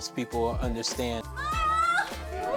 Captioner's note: cheering